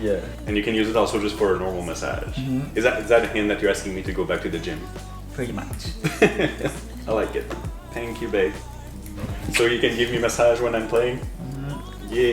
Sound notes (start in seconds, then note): 5.4 laughing